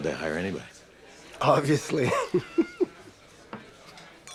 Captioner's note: laughs